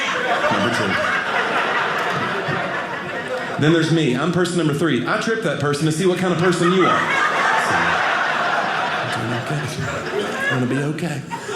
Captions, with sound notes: Number 2. Then there's me. I'm person number 3. I tripped that person to see what kind of person you are. (audience laughing) It's going to be OK.